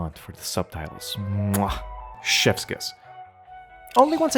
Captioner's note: mwah